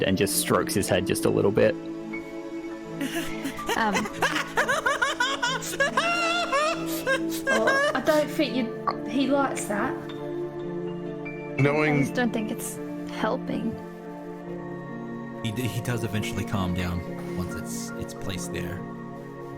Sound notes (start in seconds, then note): 7.1 Scrappy continues whimpering